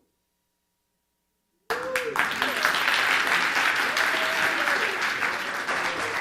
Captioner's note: audience clapping